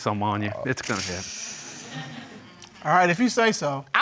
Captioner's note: sighs